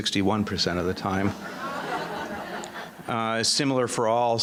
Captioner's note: audience laughing